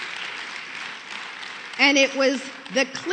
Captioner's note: applause